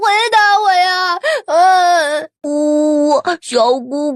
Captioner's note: sobbing sounds